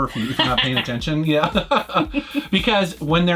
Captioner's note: laughs